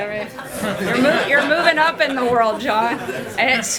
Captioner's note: laughter